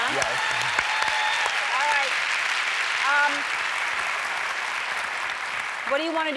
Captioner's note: cheers, applause